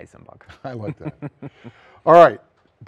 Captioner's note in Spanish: risas